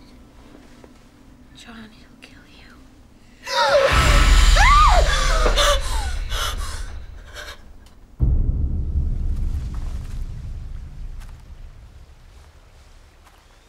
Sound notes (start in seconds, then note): 3.4 Grace gasping; 3.4 Grace screaming; 8.6 anxious music